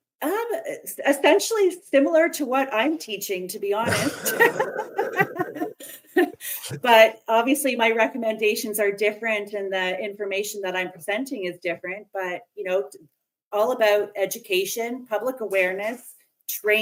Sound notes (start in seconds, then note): 6.8 laughter